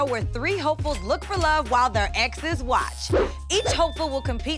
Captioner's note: buzzer rings